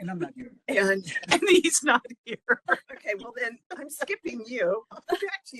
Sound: laughing

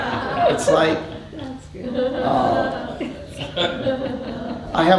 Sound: laughter

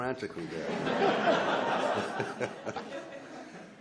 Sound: laughs

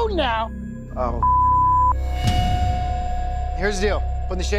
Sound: beep

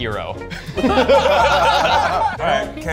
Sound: all laughing

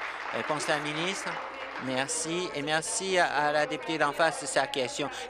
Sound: applause

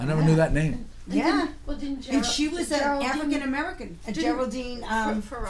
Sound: voiceover

